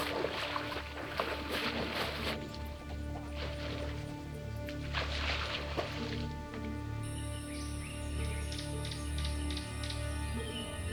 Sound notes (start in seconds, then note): 0.1 tense, eerie music; 3.8 birds chirping